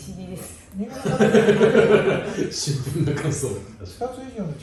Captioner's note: laughs